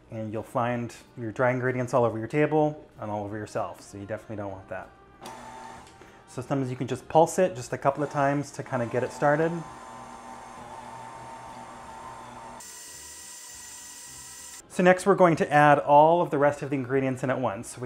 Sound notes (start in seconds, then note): 8.6 mixer hums